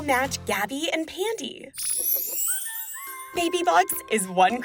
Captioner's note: chime